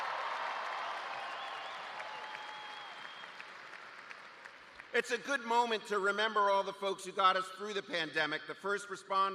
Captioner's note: cheers and applause